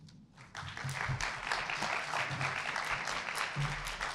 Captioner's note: audience applauding